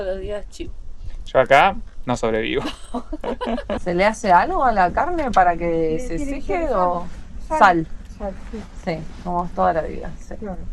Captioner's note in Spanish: risas